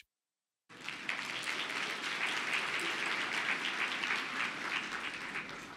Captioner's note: audience clapping